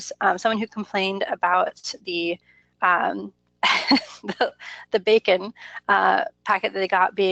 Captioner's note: laughs